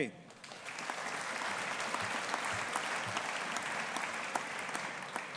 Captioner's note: audience applauding